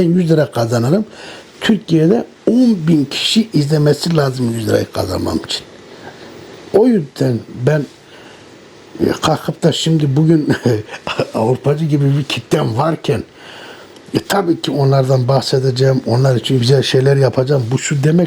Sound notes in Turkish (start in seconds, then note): 9.7 kahkaha